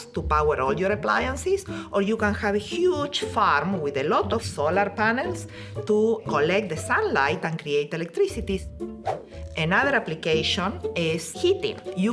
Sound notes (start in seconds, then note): 9.0 screen whooshing